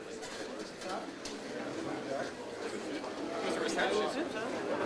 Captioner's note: audience chattering